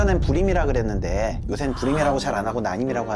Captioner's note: gasps